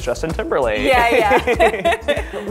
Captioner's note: laughing